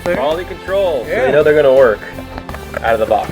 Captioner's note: voiceover